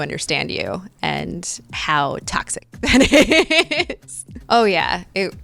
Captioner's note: laughing